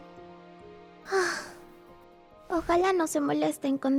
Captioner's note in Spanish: suspiro